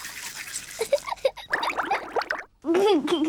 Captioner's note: giggles